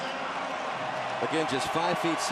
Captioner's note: cheering